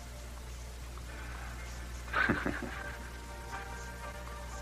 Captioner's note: chuckles